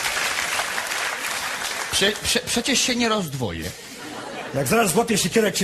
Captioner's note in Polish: Aplauz